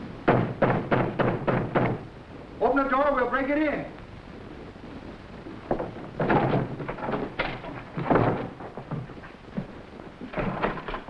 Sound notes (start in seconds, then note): 0.2 knocking on door; 6.2 door slamming